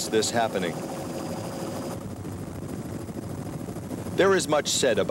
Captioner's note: helicopter blades whirring